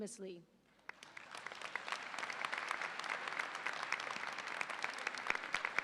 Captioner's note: audience applauds